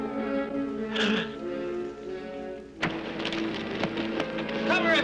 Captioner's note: Johnny gasps